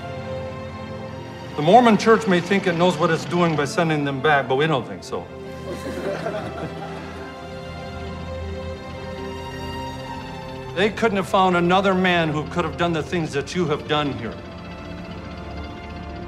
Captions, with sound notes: The Mormon Church may think it knows what it's doing by sending them back, but we don't think so. [all laughing] They couldn't have found another man who could have done the things that you have done here.